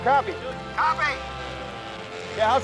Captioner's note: Tom Over Radio